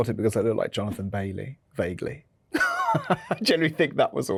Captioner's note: laughs